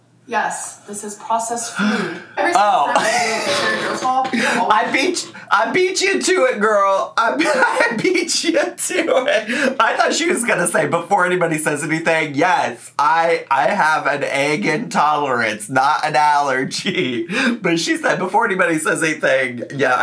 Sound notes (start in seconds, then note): 4.4 laughing